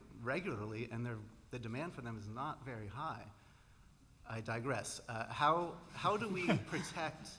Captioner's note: laughter